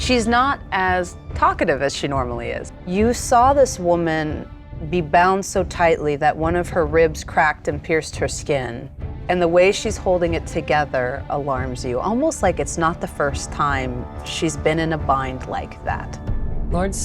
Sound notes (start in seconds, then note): none